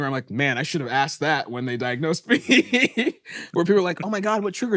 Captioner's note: laughs